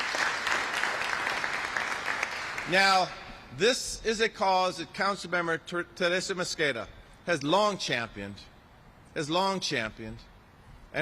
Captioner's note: applause